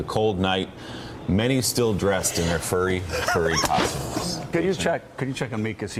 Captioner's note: laughing